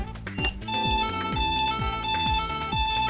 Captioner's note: sound effects and light effects